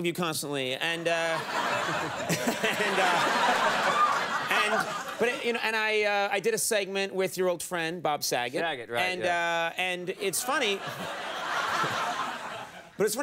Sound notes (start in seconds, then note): 2.9 audience laughing; 10.1 audience laughing